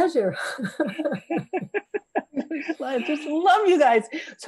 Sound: all laughing

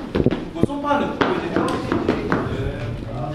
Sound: tapping

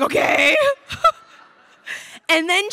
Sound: crowd laughing

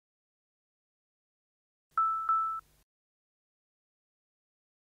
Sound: device beeping twice

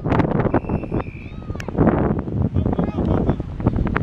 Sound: whistle blowing

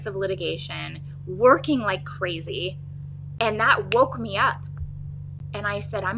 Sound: snaps fingers

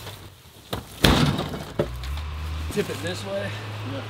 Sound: hollow bang

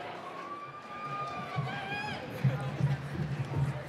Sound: cheering

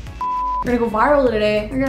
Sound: screen beeps

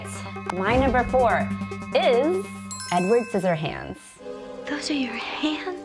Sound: bell ringing

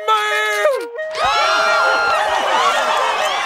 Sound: cheering

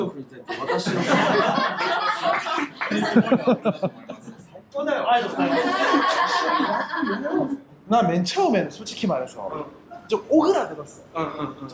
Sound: laughs

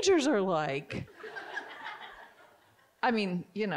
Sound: audience giggling

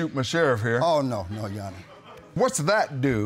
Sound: audience laughing

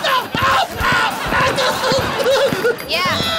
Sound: laughing

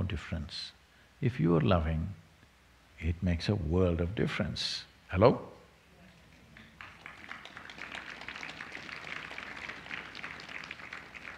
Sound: applause

